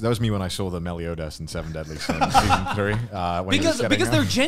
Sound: laughs

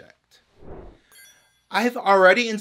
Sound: whoosh

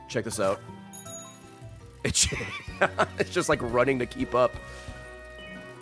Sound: laughs

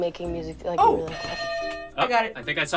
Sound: bell rings

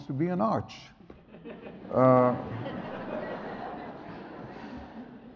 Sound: audience laughs

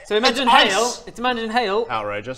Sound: ring ring

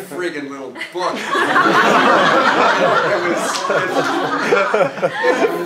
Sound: laugh

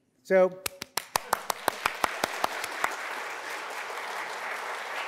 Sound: audience applauding

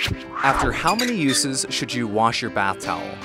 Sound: voiceover

